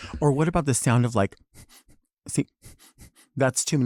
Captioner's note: Chelsea breathes heavily; Delta Work breathes heavily; breathes heavily